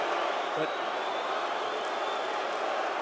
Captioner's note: crowd cheering